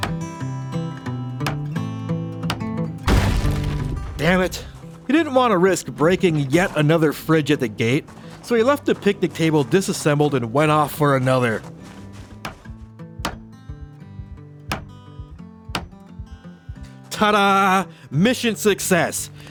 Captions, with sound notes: (Breaking Sounds) Damn it! He didn't want to risk breaking yet another fridge at the gate, so he left the picnic table disassembled and went off for another. Tada! Mission success!